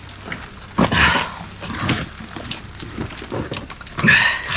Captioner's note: heavy breathing